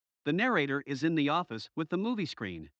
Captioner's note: voiceover